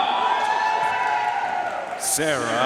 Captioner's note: audience cheering and applauding